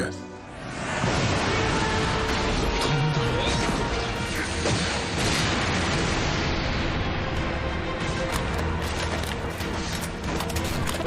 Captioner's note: slaughter and massacre noises